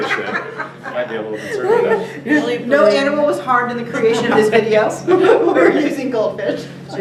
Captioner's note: laughter